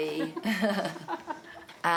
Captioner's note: laugh